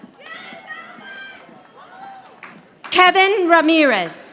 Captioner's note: audience applauding